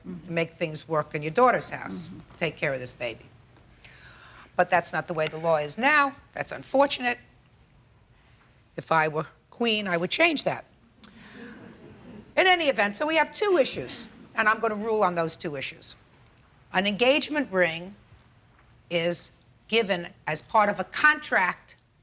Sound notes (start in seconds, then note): 11.0 group laughs